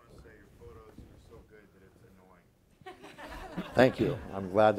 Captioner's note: laughing